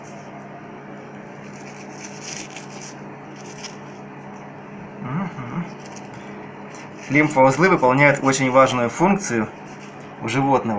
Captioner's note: noise of the combi steamer